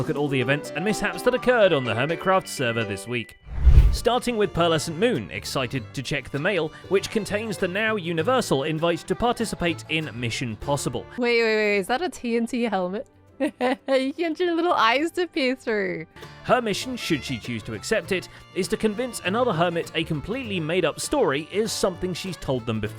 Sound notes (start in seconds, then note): 13.5 laughs